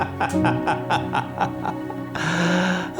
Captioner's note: maniacal laughter